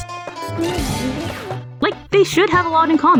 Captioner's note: horks